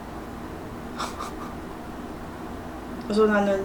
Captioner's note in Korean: 실소